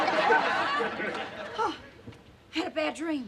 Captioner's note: gasps